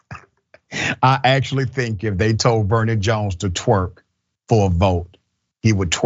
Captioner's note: laugh